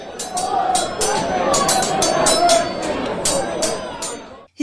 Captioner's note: battle sounds. Swords clashing. Men shouting